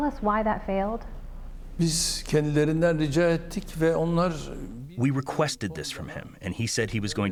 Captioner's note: through translator